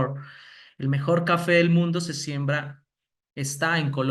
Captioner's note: speaking spanish